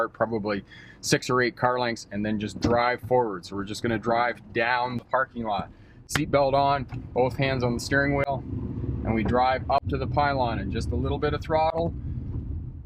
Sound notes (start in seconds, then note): 8.3 engine roaring